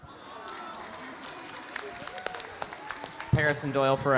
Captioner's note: audience applauding